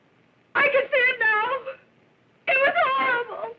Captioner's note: sobbing